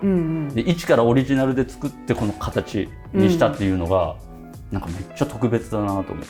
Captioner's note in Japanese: 咳払い